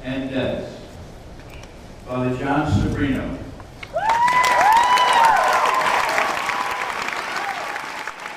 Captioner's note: applause